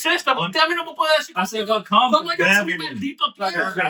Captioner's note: speaking In Foreign Language